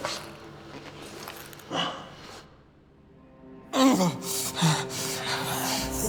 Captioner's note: grunting